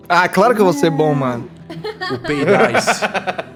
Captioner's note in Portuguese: risada